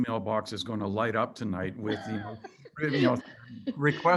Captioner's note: laughter